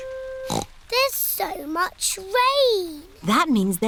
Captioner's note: snorts